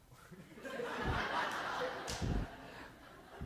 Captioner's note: laughter